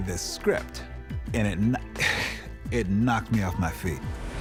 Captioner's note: chuckles